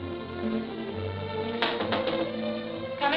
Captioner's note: knocking on door